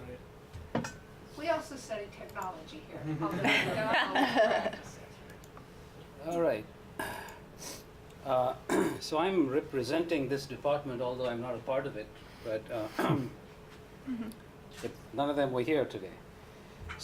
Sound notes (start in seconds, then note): 3.0 laughter